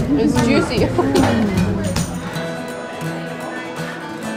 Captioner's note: laughs